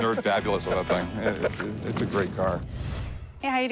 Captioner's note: chuckles